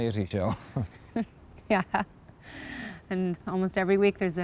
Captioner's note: laughing